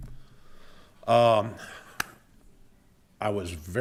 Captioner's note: claps hands